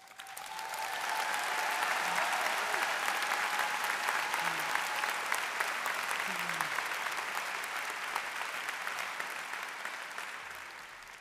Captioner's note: applause